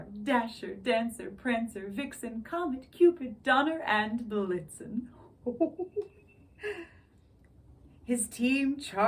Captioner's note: ho-ho-ho chuckles